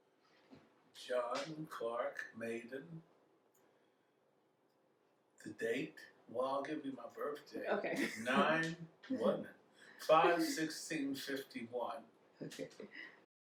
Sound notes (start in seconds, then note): 10.0 laughs